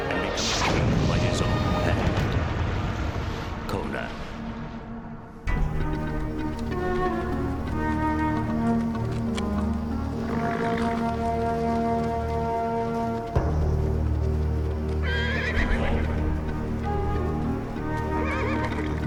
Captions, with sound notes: and become a king by his own hand. Conan. (somber orchestral music) (footsteps) (horse snorts) (horse whinnies) (birds chirping)